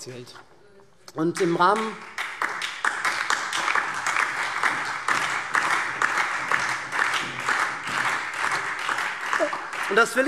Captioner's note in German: Beifall SPD